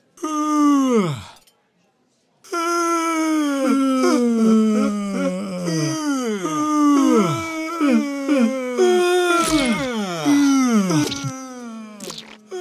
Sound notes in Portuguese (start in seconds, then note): 0.1 Yawns; 3.6 Ambos bocejo continuamente